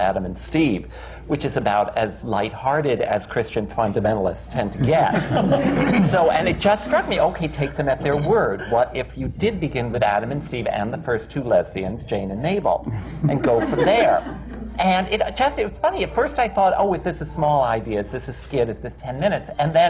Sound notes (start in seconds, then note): 4.8 laughter; 12.9 laughter